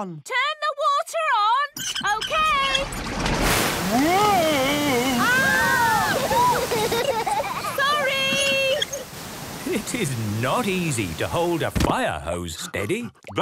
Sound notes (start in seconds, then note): 1.7 wheel squeaking; 3.9 children laughing